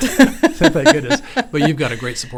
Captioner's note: both laughing